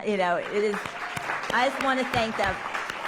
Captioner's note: applause